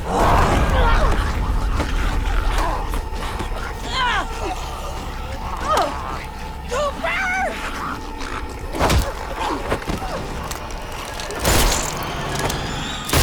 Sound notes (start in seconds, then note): 0.1 grunting; 2.5 grumbling; 4.1 grunting; 7.5 grumbling; 11.1 dramatic music